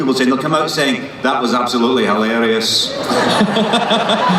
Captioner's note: monotone